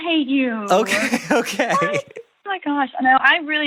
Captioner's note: laughs